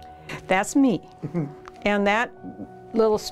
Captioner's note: laughs